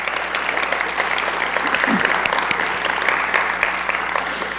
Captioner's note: applause